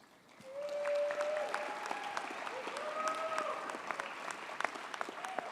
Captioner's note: audience cheers and applauds